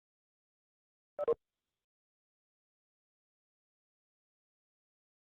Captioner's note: tone beeping